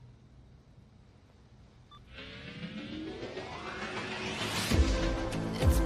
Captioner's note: phone beeps